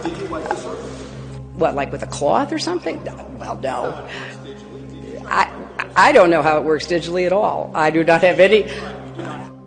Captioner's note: laughs